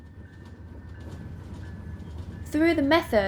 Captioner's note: explosion whooshes; train bell rings